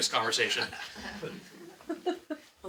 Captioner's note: laughing